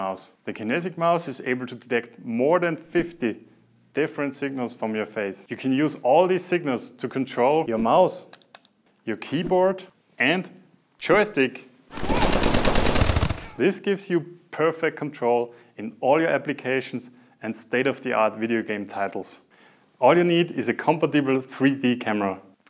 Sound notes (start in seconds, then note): 8.3 click, click; 11.9 gunfire sounds from a video game